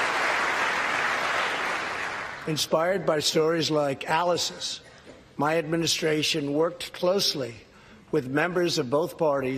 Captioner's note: applause